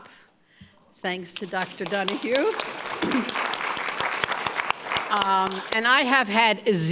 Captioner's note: audience applauds